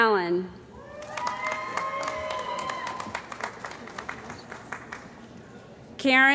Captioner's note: cheering & Applause